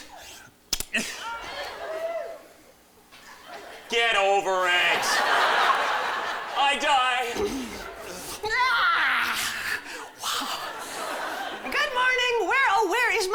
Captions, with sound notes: [AUDIENCE GROANS] GET OVER IT! [LAUGHTER] I DIE. [YAWNS] WOW. GOOD MORNING! WHERE, O, WHERE IS MY LOVE?